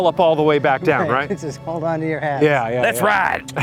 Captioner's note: chuckles